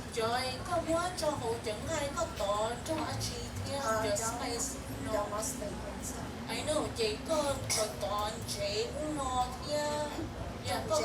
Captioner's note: speaking in foreign language